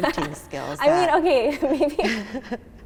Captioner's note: laughing